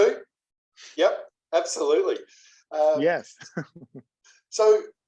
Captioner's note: laugh